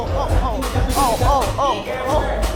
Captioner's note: bump